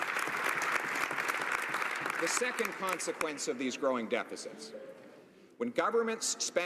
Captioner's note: applause